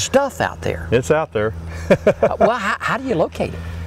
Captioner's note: laughter